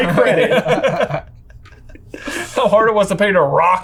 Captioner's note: everyone laughing